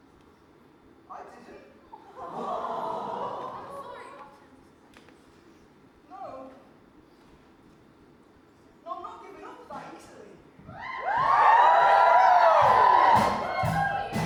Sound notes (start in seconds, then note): 1.5 audience awwws; 10.7 audience cheers